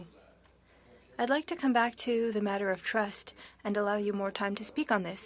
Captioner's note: speaking French